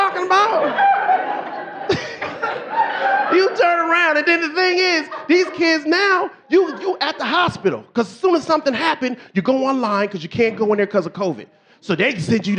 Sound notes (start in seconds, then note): 1.5 audience laughing; 4.5 laughing